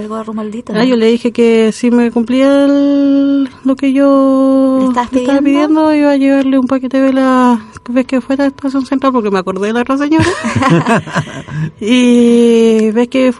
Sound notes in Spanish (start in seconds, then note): 10.2 risas